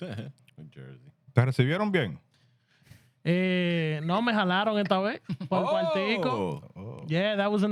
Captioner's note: speaking Spanish